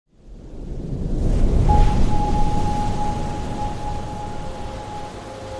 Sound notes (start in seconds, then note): 0.6 wave crashes; 1.7 dramatic music